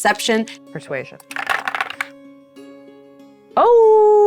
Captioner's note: die rattling